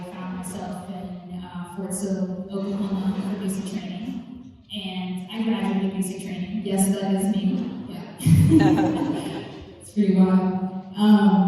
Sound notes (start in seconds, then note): 8.4 laughs